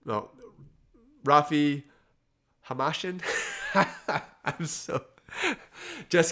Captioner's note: laughs